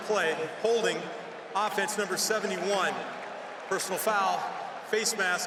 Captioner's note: cheering